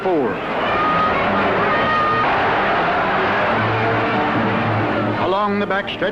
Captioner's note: crowd cheering